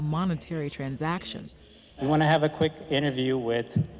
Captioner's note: on microphone